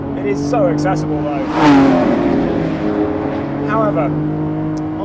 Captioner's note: car whizzes past